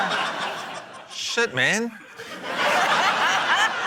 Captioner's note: laughter